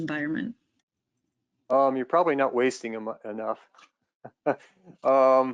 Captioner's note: laughs